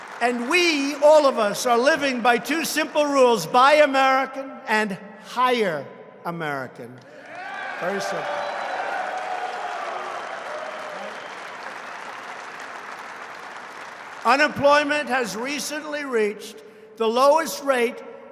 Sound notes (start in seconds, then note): 0.0 applause; 6.4 applause